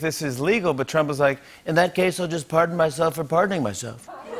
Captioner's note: As Trump; laughter